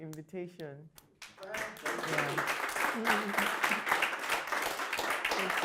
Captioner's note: audience clapping